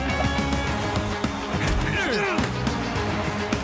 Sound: grunting; crowd cheering

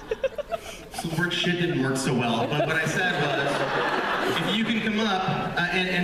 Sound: laughter

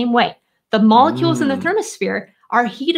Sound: murmurs

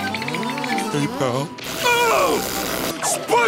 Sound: whistling; screaming

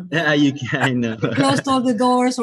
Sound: laughing

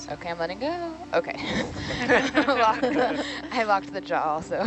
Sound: group chuckles

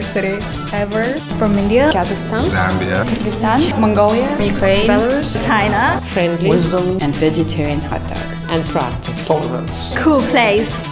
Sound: voices of students and faculty

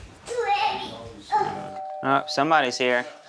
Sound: doorbell

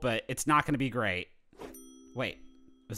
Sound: ding

